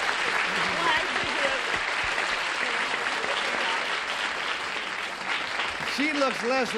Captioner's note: applause; chatter